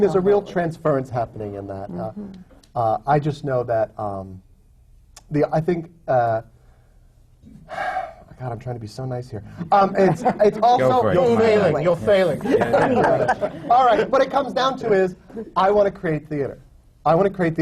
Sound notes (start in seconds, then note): 7.5 sighs; 9.5 laughter